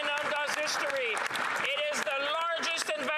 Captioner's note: cheering and Applause